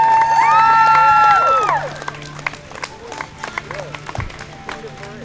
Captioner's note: balloons popping